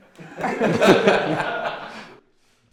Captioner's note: laughter